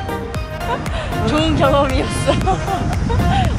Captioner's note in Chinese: 苦笑